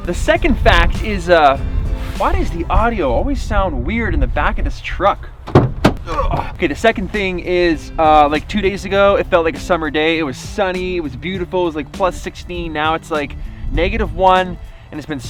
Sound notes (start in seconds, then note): 6.0 grunts